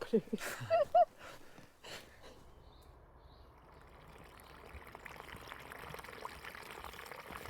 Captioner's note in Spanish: risas